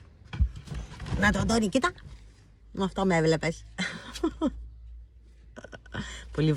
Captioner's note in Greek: γέλια